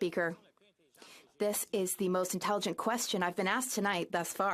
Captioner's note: speaking French